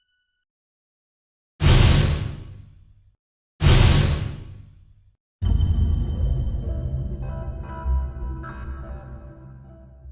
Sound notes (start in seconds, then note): 1.6 loud bass bangs; 5.5 eerie tune